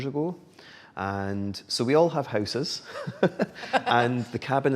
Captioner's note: laughs